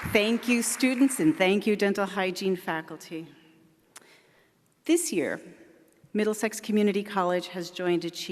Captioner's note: applause